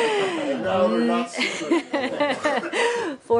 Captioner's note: laughter